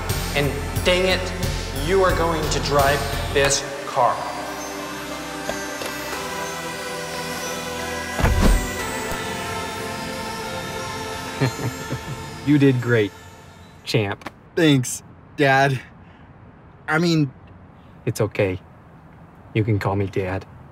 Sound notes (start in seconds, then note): 8.1 car doors slam; 11.4 soft chuckle